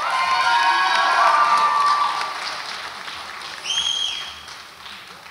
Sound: audience applauds and cheers

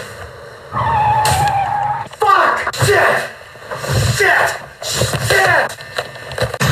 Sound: brakes squealing; crash

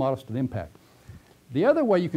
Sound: pause

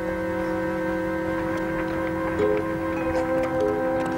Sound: carriage approaching

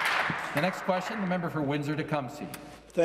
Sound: some Applause

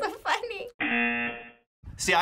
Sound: buzzer

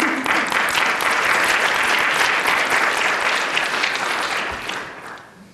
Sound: applause

